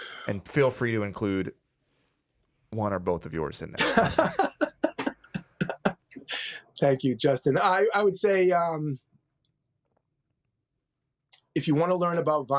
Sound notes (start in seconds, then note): 3.8 laughing